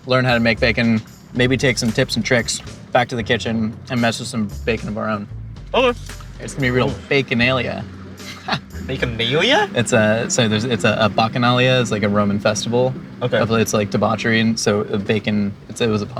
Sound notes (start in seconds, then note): 8.2 laughing